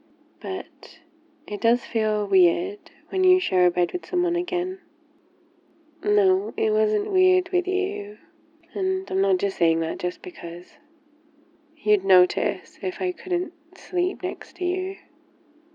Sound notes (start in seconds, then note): none